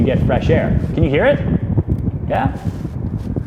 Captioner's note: wind blowing